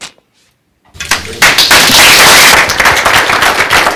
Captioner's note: applause